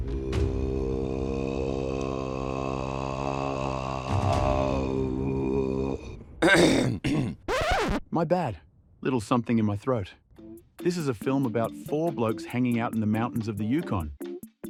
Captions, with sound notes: [throat singing begins] [clears throat] [record scratch] My bad, little something in my throat. This is a film about four blokes hanging out in the mountains of the Yukon.